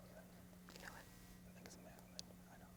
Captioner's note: whispering